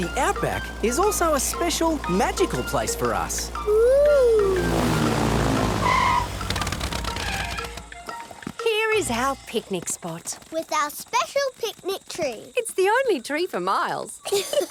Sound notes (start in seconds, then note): 6.1 tires screeching